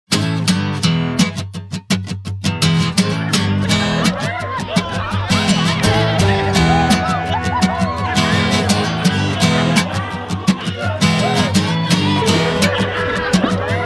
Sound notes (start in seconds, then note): 0.1 upbeat country music; 4.5 chatter and excitement